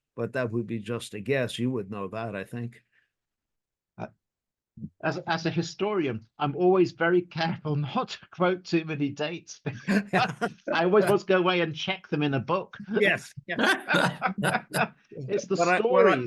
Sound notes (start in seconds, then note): 9.6 laughs